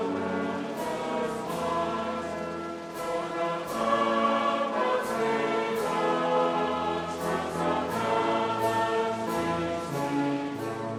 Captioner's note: applause